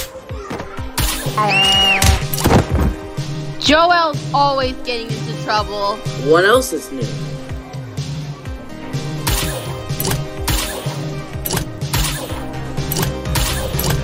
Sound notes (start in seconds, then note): 1.4 screaming